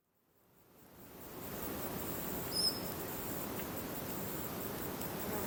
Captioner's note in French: sons de la nature